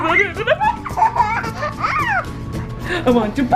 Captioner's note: giggles